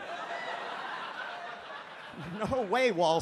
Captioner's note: audience laughs